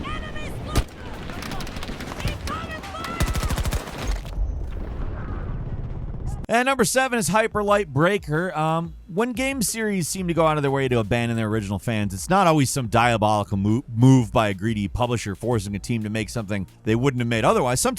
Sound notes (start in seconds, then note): 4.6 gun shooting